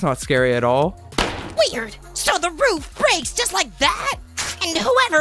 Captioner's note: loud boom